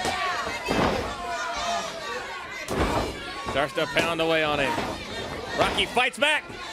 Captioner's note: crowd chatter